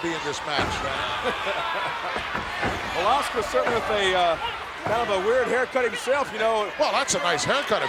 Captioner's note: laugh